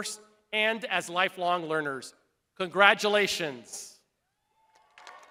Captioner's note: crowd applauding